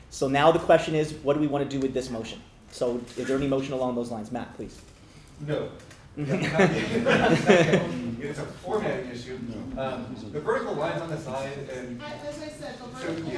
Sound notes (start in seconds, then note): 6.2 laughter